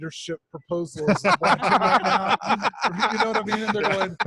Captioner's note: all laughing